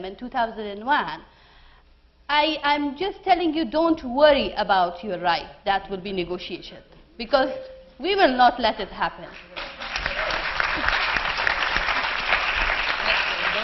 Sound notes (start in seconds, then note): 9.3 Applause